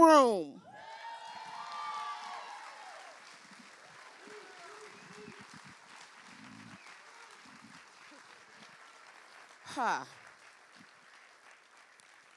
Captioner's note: loud cheering